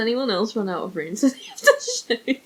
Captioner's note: laughs